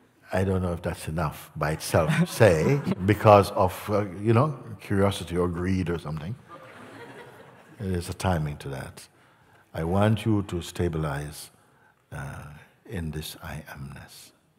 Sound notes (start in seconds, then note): 6.4 laughter